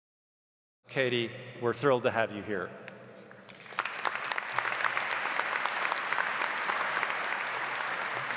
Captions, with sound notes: - Katie, we're thrilled to have you here. (audience clapping)